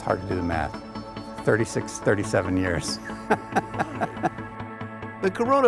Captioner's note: chuckling